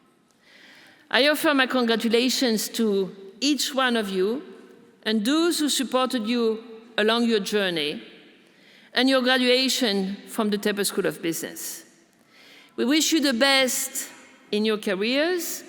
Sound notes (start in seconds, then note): none